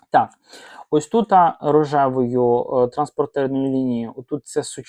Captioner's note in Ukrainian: сопіння